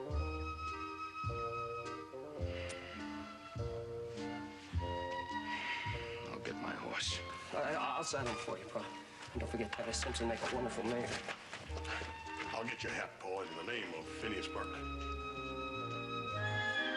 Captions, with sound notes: ( sighs ) I'LL GET MY HORSE. I'LL-I'LL SADDLE HIM FOR YOU, PA, BUT DON'T FORGET, TITUS SIMPSON WOULD MAKE A WONDERFUL MAYOR. I'LL GET YOUR HAT, PA, IN THE NAME OF PHINEAS BURKE.